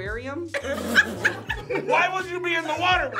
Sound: group laughs

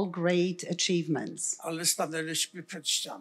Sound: foreign language

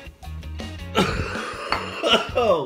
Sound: coughing

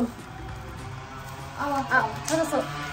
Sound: vrooooooom

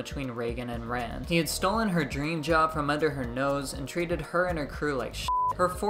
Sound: beep

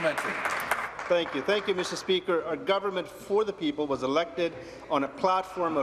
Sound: applause

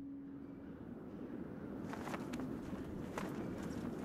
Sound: wind blowing

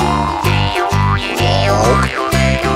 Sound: gulp!

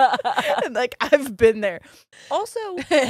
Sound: both laughing

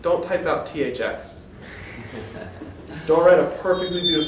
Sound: laughter

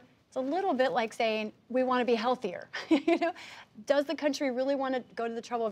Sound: laughs

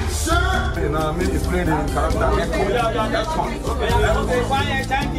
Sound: all chattering

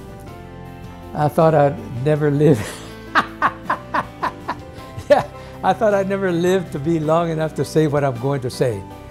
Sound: laughs

